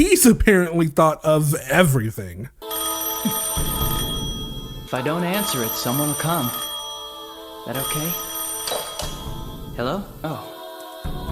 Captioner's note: ring